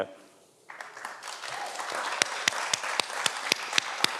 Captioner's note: everyone applauds